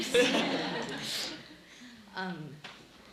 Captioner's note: laughing